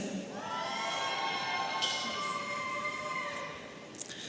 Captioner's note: audience cheering